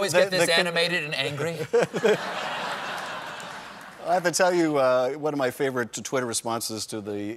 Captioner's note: laughter